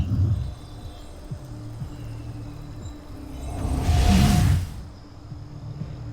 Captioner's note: sparkling whoosh, enchanting chimes